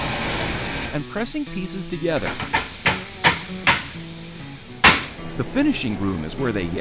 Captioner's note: wood hammering